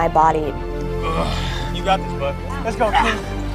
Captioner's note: groans